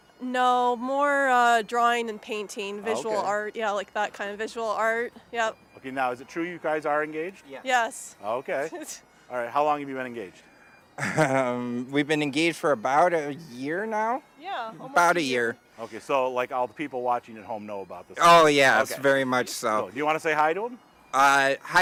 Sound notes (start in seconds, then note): 11.0 chuckling